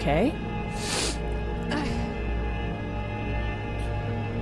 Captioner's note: person sobs; intense music